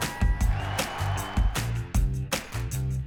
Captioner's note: girls cheering; crowd cheering